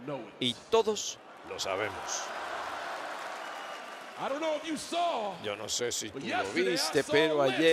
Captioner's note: applause